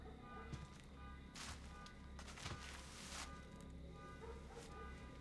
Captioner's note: distant car alarm honking